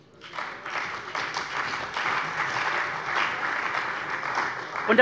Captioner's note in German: Beifall bei der CDU und dem BÜNDNIS 90/DIE GRÜNEN